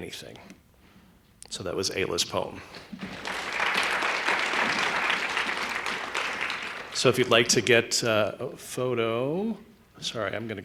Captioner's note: applause